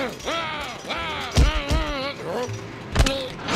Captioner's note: shouting